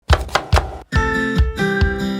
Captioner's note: knife chopping; lively music